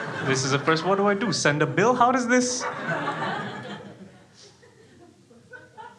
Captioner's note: crowd laughing